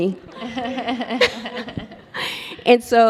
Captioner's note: all laugh